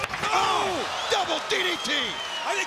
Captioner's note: commentators exclaim